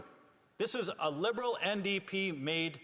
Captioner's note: none